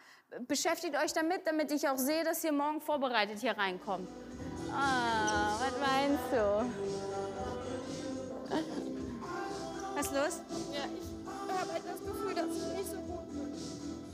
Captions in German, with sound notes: Beschäftigt euch damit, damit ihr morgen vorbereitet hier reinkommt. (mitfühlend) Ah, was weinst du? Was ist los? Ich habe das Gefühl, dass ich nicht so gut bin.